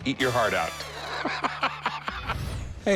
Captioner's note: laughs